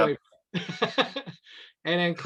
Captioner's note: laughs